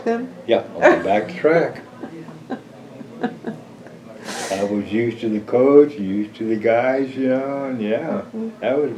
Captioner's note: laughter